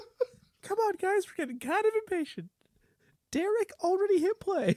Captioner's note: tiny voice